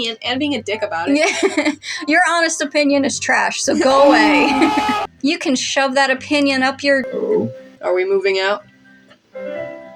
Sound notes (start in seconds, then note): 1.7 laugh; 3.8 crowd Hollering; 7.0 Jæmis Vocalizing